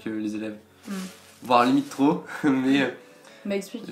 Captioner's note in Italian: ridere